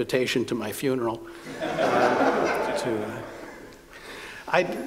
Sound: laughter

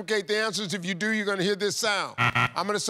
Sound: buzzer buzzes

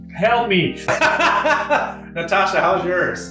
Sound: laughs

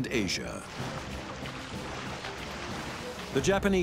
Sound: water splashing

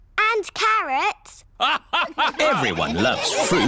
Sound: all laugh

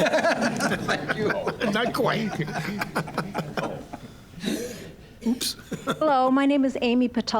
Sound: audience laughing

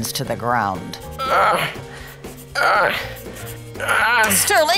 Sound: grunts

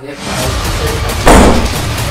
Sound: door smashes

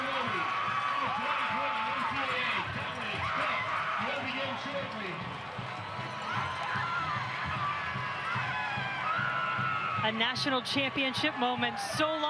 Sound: cheers and applause

